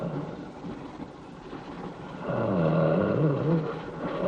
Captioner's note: snarling